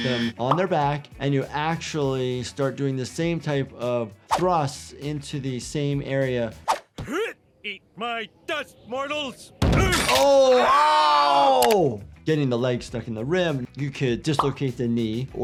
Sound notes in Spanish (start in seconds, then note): 7.3 gruñidos; 9.9 crujido de piernas; 9.9 golpes en el tablero